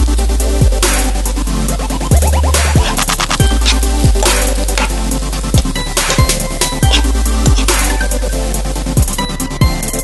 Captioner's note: stir-fry the carrot, sizzling sound in the background